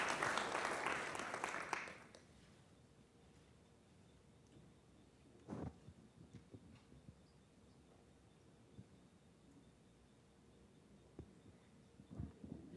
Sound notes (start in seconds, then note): 1.7 applause